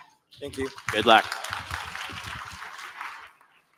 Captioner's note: applause